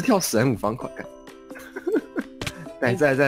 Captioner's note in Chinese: 苦笑～